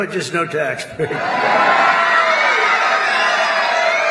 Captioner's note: cheers